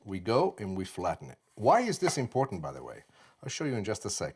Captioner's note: slices